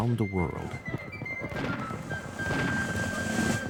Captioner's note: cannons firing